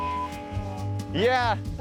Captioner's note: high pitched beep